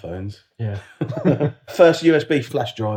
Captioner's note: laughs